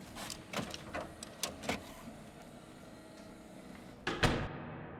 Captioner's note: machine whirring